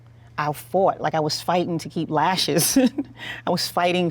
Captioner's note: laughs